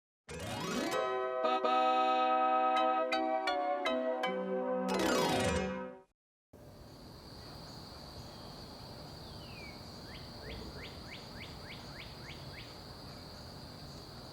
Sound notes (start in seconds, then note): 9.6 birds chirping